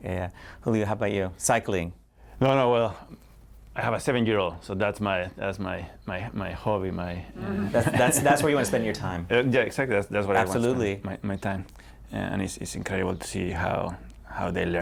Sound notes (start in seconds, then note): 7.4 laughter